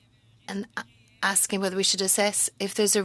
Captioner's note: speaking french